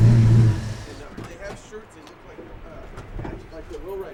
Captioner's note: V-8 car motor. Background chatter